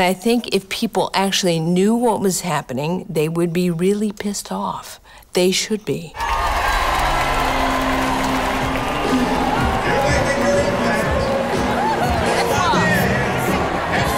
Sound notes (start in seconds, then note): 7.0 cheering; 9.2 live music